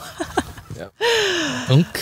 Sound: laugh

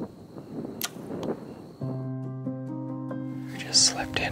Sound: bow popping

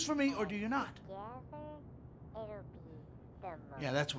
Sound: phone chattering

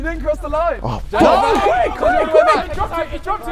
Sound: men gasping

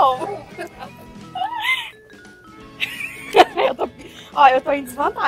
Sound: laugh

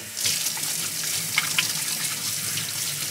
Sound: running water

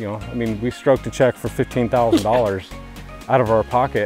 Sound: stressed laugh

